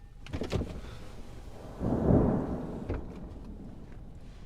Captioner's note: thunder